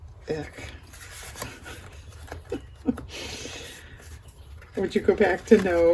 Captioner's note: laughs